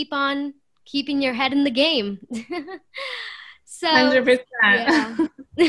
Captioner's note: laughter